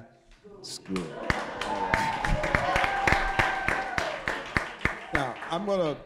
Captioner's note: applause